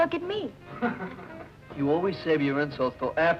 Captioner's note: Flat Top laughing